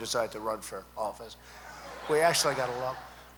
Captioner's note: laughter